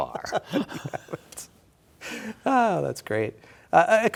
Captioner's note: laughter